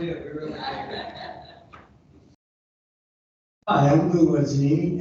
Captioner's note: people laughing